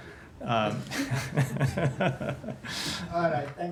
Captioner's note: laughter